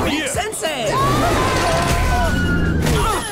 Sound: screaming

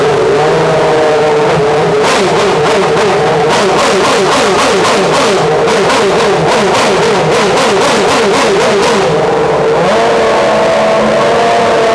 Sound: F1 engine firing and revving

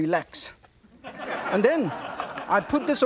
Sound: audience laughing

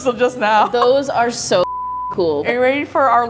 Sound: beep

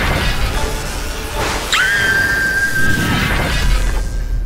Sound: current flowing; screams

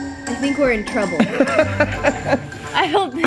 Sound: laughs

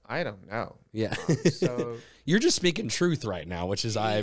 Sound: laughs

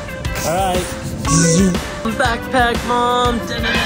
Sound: scanner beeps

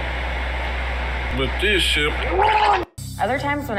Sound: gargling noises

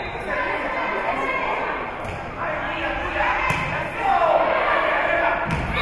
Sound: whistle being blown; spectators shouting encouragements

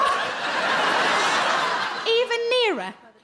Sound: crowd laugh

